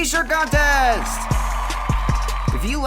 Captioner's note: cheers